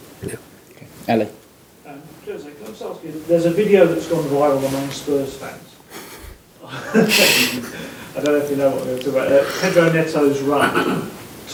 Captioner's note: Mourinho starts laughing